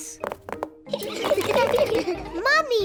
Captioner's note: all laugh